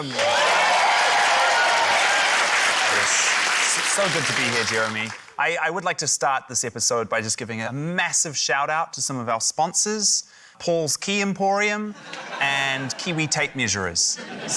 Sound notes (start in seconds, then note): 2.1 cheering, applause